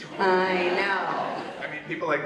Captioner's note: audience laughs